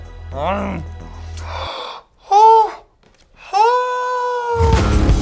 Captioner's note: growls; gasps; upbeat rock music